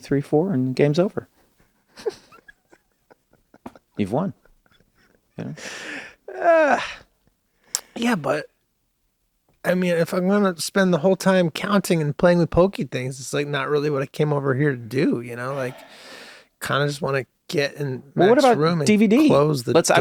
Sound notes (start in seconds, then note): 1.9 laughs